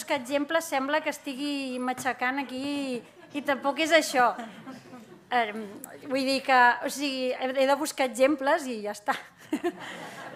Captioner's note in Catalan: riures; riures